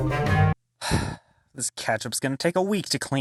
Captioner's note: sigh